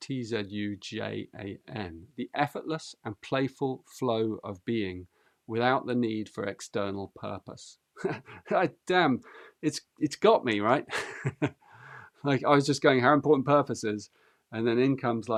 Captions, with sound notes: 'Tzu Jan'. 'The effortless and playful flow of being without the need for external purpose.' [chuckles] Damn, it's got me, right? [laughs] Like, I was just going how important purpose is, and then in comes,